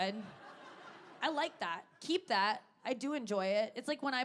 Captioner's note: audience laughing